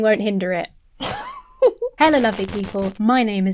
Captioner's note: laughs